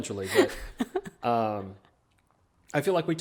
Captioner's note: laughing